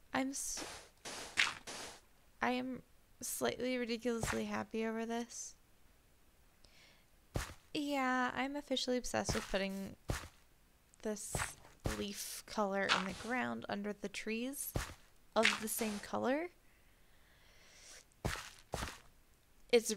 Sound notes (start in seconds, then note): none